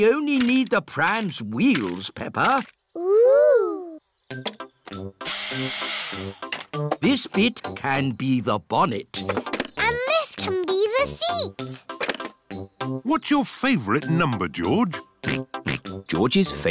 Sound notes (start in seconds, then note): 5.5 whirring; 16.0 snorts